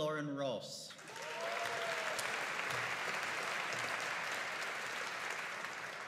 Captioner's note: audience cheering and applauding